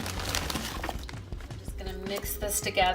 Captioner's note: meatballs dropping into pot